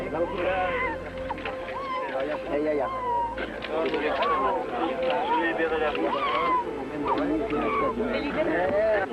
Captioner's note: baby crying and murmurs